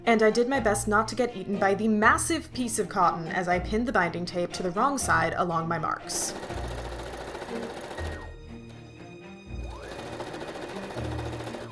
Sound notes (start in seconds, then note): 9.6 sewing machine noises